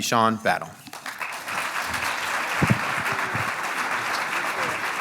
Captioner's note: audience applauds